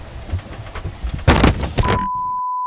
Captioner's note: wood cracking